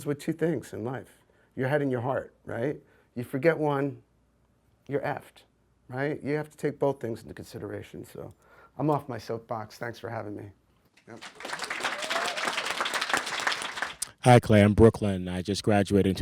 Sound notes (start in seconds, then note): 11.0 audience applauds